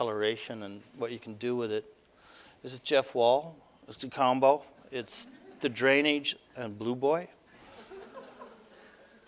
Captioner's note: audience: Laughter